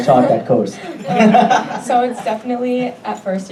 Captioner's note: audience laughing